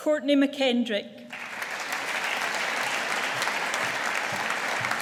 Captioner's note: audience applauding